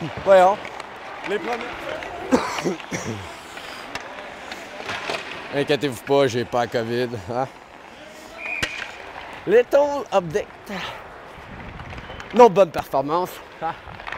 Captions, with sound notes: Come on. [coughs] Don't worry, I don't have COVID. Little update. Another good performance, haha.